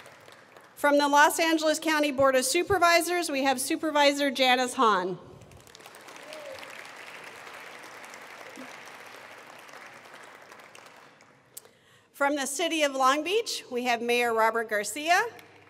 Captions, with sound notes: From the Los Angeles County Board of Supervisors, we have Supervisor Janice Hahn. (attendees applauding) From the city of Long Beach, we have Mayor Robert Garcia.